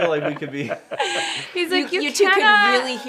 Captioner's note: laughing